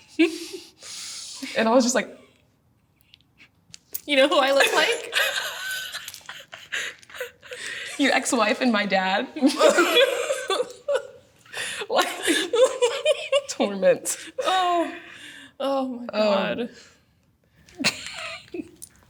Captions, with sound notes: And I was just like You know who I look like? (Both laugh) Your ex-wife and my dad. (Both laugh) Torment. Oh. Oh my God.